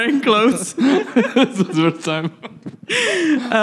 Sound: laughing

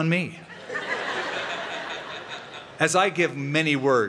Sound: laughter

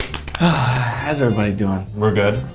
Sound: sighs

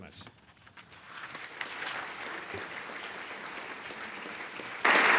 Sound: applause

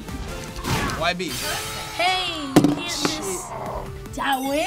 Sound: Charizard groans

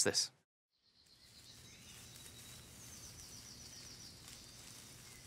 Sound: birds chirping

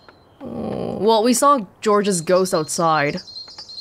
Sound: groans

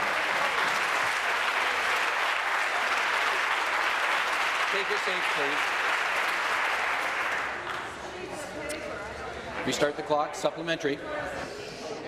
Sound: applause

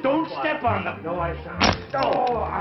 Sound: glass shattering

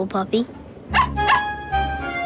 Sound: barking

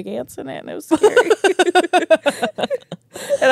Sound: laugh

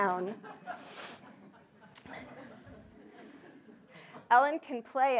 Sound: audience laughing

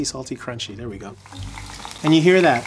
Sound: oil sizzling

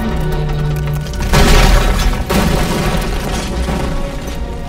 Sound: roof collapsing

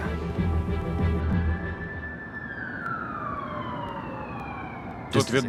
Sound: sirens wailing

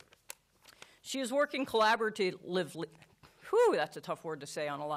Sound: stutters

